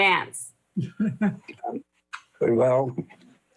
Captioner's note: laughs